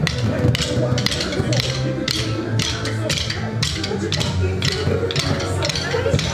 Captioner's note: sticks clapping; upbeat lively music